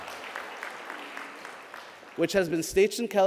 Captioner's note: applause